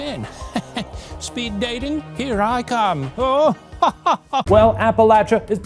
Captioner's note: laughs; laughs